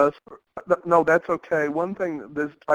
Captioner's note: voiceover